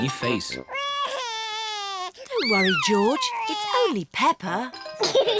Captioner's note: cries; all laugh